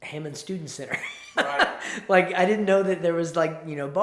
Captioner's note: chuckles